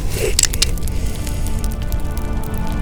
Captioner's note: revolver hammer cocks